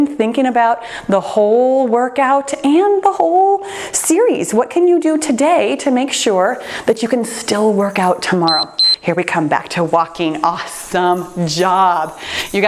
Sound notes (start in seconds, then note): 8.4 timer beeps